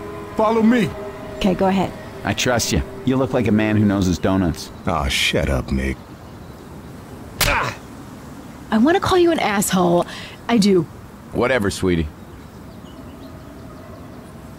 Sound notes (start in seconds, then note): 7.4 bitch slap